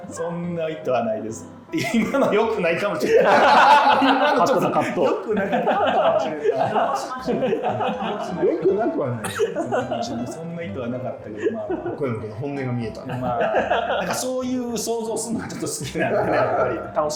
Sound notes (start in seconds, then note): 4.2 laughing